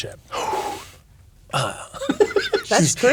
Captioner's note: laughing